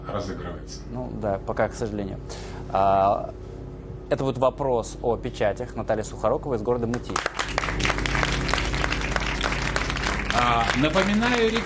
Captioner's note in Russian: аплодисменты